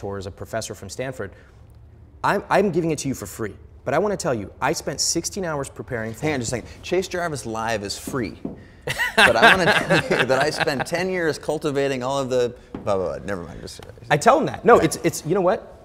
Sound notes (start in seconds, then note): 8.8 Ramit laughing